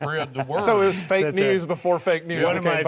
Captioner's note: laughing